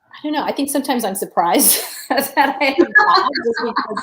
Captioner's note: laughter